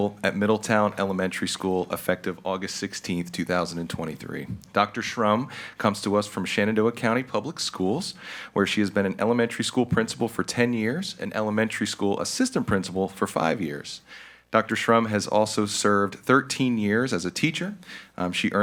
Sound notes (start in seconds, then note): none